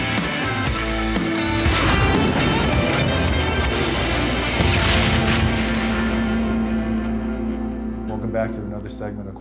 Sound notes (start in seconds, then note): 4.8 boom